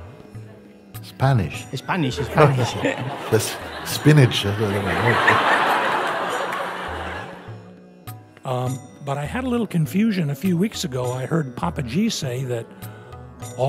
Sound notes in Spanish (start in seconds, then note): 2.3 risas